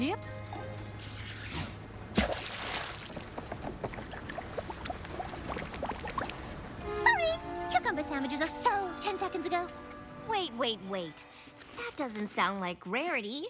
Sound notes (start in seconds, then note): 2.1 splash; 6.1 water bubbling